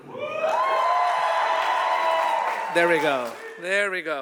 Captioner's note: audience applauding